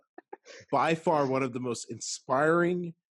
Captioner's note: laughing